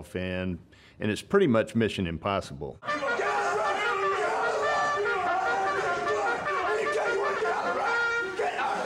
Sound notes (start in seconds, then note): 2.8 trumpet playing; 2.8 man screaming